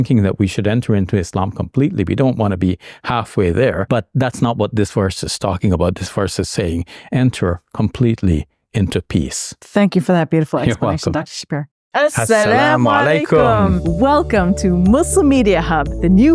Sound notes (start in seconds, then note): 12.3 speaking in Arabic